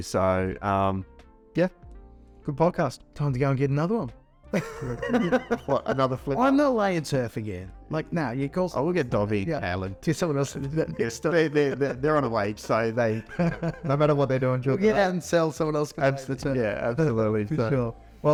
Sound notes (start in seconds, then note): 4.6 laughing